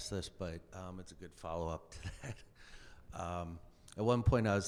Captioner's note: laughs